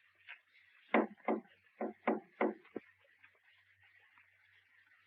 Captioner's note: tapping lightly